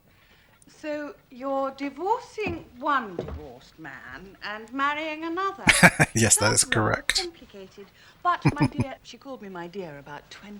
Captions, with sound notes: [Laughing] Yes, that is correct. [Chuckling]